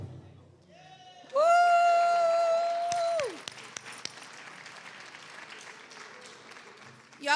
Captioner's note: cheers and applause